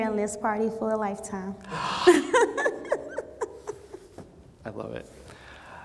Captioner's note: gasps; laughs